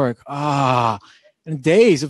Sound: groaning

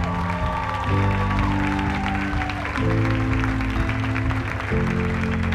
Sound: audience applauds and cheers

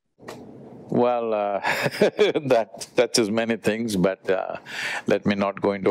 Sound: laughs

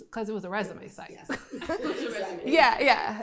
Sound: laughing

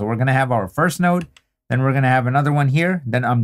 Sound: mouse clicking

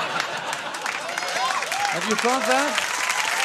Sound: audience laughing

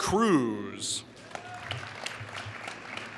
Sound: applause

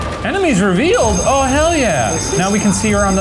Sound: school bell ringing

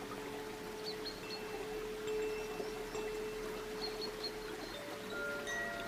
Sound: water babbling; bells lightly chiming

